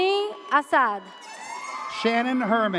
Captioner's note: air horn blares